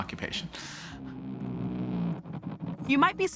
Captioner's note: buzzing